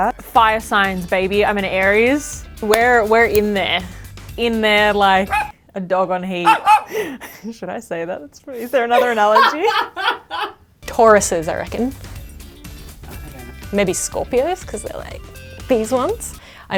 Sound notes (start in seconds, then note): 6.4 dog barking; 8.6 laughs; 8.9 producer laughs